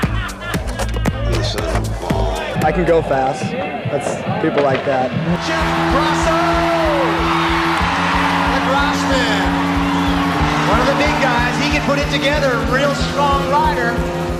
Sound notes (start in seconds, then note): 6.7 spectators cheering